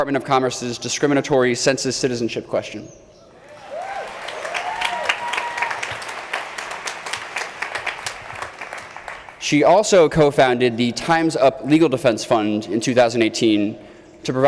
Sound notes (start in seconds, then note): 3.3 crowd cheering